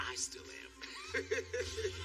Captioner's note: laughs